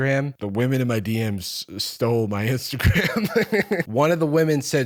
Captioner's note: laughs